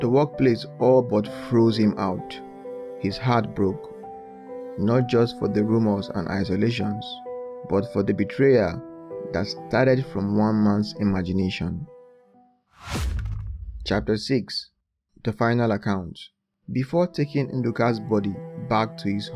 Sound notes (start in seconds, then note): 12.8 thud